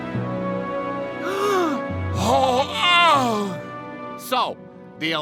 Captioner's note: gasps